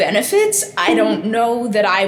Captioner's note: bonk!